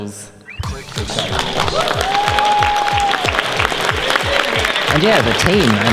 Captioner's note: audience cheers